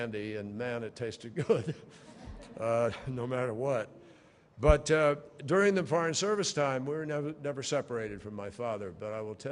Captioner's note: laughter